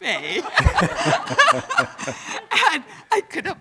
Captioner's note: everyone loudly laughing